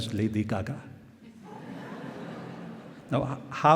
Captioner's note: laughter